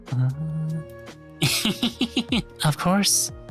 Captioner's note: laughs